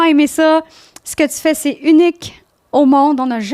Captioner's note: in french